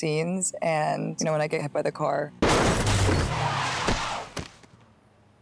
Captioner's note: crash